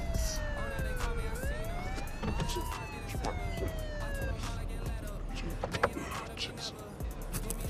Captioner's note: rap music in background; JUJU grumbles